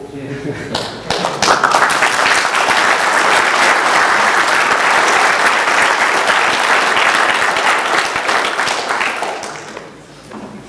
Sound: applause

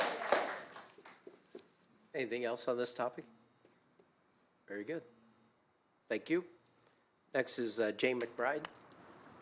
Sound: applause

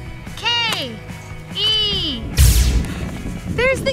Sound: magic sound

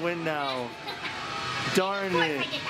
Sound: laughs

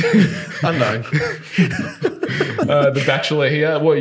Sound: laughing

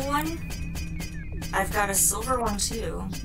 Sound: hammer clunking continues faintly

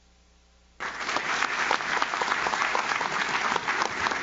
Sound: audience claps

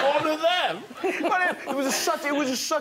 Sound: all laughing

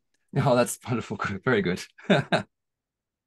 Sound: chuckles

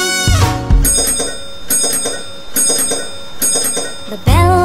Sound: bell ringing

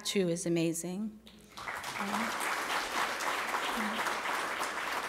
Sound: applause

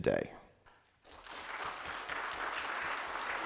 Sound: applause

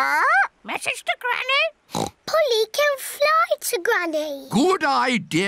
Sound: oinks

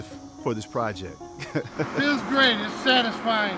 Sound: giggles

